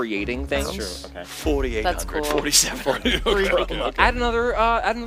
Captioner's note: laughs